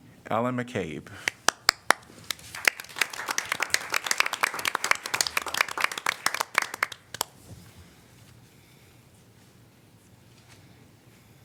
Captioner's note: applause